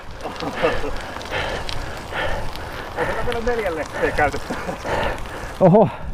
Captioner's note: laughter